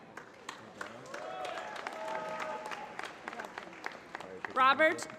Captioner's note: applause